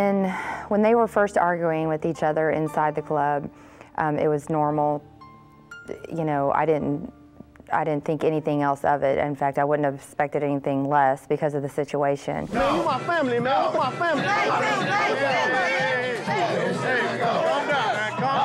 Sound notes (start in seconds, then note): 15.2 shouting